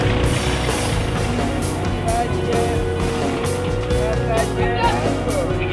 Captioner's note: plane engine shuts off